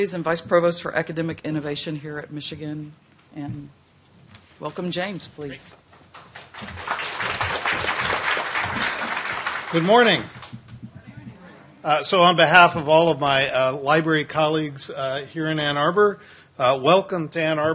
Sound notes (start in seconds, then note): 8.7 applause